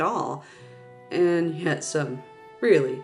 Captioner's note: sigh